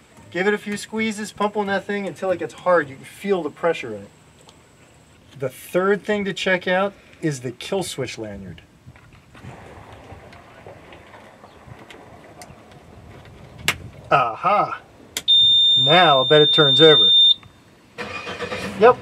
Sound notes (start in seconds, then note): 11.8 clicks into place; 15.2 high pitched beep; 17.9 engine turning over